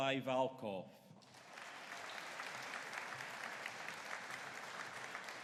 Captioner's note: audience applauding